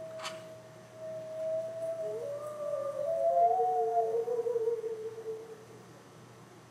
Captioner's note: two loud howls